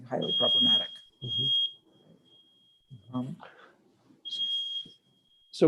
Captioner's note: high-pitched beeping